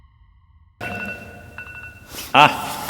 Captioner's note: alarm sounding